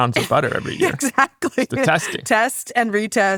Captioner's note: laughs